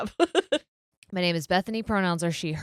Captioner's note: laughing